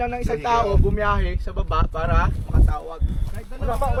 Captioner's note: Tagalog; Tagalog